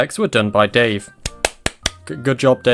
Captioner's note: clapping